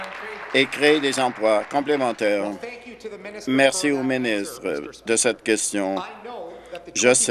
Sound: applause

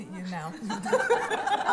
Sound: laughter

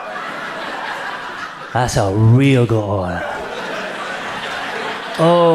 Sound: audience laughs

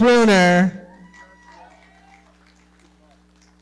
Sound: audience clapping

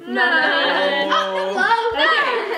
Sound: laughs

